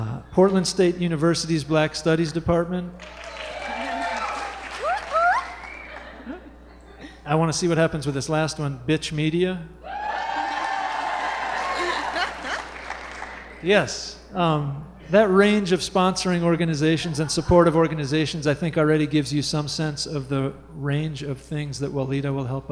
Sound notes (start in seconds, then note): 3.0 applause; 5.6 cheering; 9.8 cheering